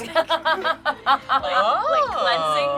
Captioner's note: laughs